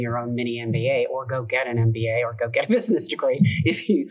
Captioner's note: chuckles